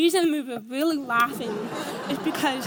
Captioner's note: audience laughs